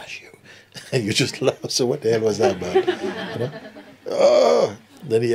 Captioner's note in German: Lachen